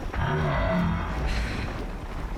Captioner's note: sigh